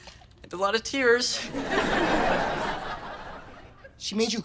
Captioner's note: audience laughter